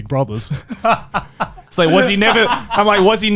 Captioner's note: laughing